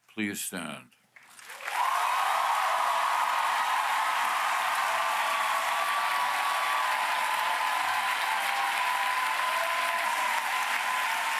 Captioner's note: applause